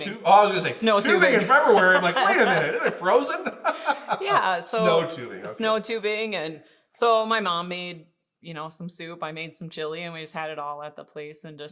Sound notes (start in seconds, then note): 1.0 laughing